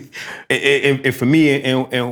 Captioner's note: laughter